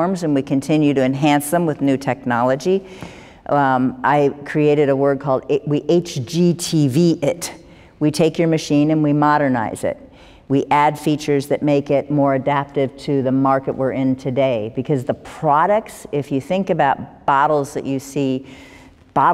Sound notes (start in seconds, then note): none